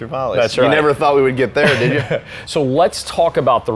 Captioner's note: laughs